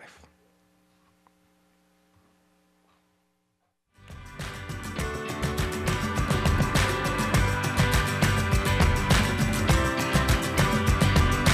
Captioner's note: applause